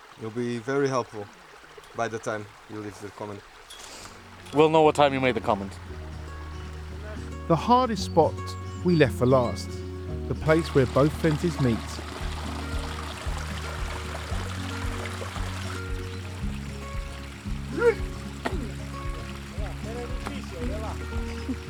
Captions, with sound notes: It'll be very helpful by the time you leave the comment. We'll know what time you made the comment. The hardest spot we left for last, the place where both fences meet. (water splashing) Was it hard to jump?